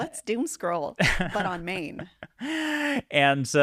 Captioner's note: laughing